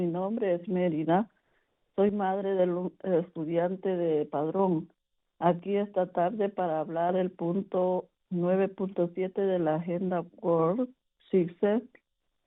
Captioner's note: speaking spanish